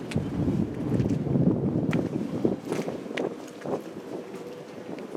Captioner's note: wind